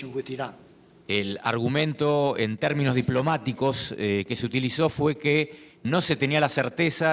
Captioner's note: speaking in foreign language